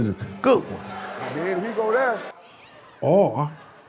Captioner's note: students chattering